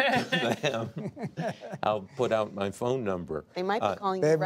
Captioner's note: laughter